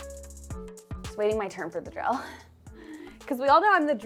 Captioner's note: upbeat music; chuckles